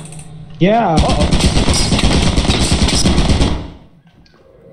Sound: turret shooting

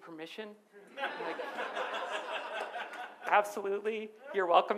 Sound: audience laughs

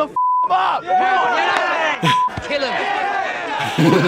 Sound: beeping

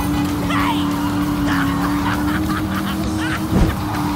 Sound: laughing

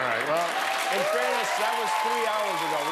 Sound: cheers and applause

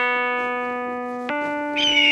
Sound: hawk Screech

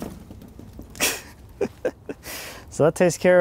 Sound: laughing

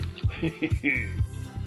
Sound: low chuckle

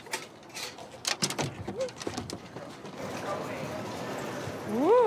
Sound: taps truck bed; kennel latch creaks open

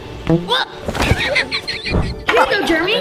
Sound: Germy giggling; soccer ball boinging

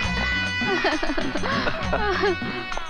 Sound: laughs

